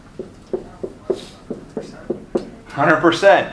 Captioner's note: marker thudding